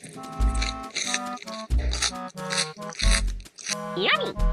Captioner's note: munching